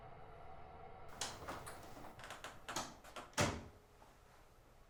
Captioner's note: door clicks